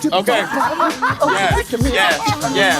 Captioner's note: vocalizing melody; laughing